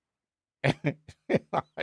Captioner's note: laughs